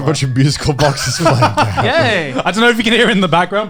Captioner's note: chuckling